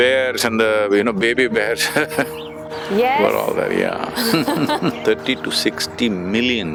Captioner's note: laughs